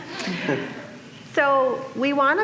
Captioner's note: laughter